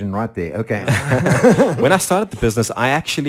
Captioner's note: laughs